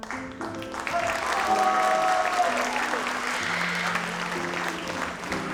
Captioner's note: audience applauds